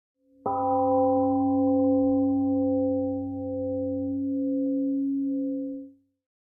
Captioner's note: temple gong rings and fades